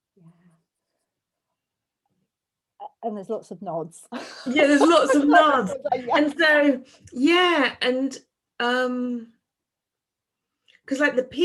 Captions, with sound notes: - Yeah, and there's lots of nods. (laughs) - (laughs) Yeah there's lots of nods. And say, yeah, and 'cause like the piece that I submitted,